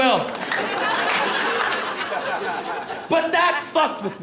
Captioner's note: laughter, applause